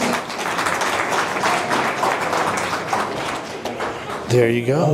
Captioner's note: applause